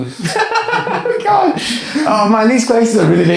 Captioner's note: laughs